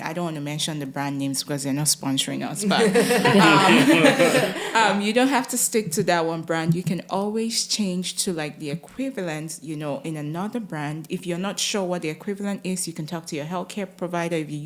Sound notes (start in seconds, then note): 2.6 all laugh